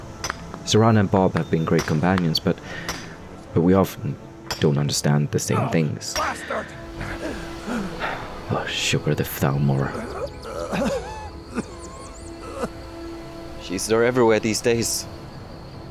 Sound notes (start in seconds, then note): 6.9 Alvor pants; 9.5 Alvor moans and coughs